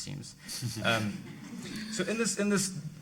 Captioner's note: audience laughing